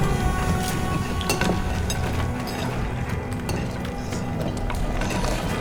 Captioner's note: chisels clanking